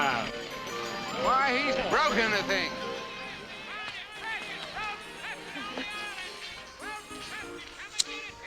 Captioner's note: screaming